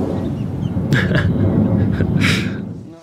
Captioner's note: laughter